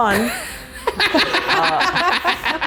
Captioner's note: laughter